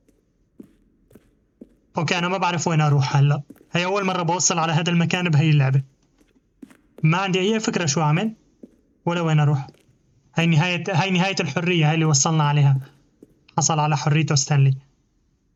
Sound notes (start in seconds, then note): 0.1 footsteps; 3.6 beeping